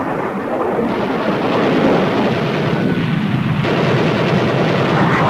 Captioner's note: guns firing